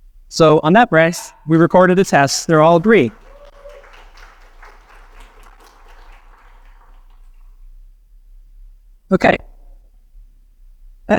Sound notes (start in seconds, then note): 2.0 audience cheers and applauds